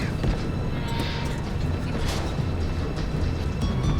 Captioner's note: door creaks; suspenseful music